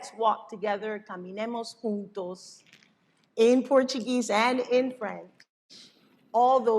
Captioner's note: non-english speech